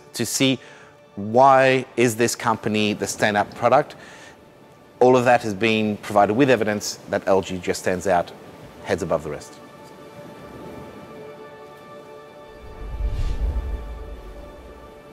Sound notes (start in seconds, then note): 10.8 ocean waves splashing